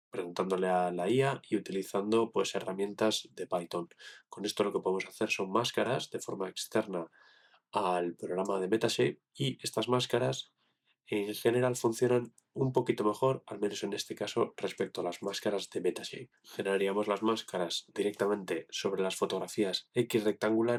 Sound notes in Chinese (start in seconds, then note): 3.1 英语